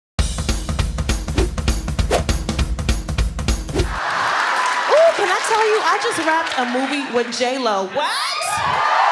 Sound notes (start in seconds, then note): 0.2 upbeat music; 3.9 applause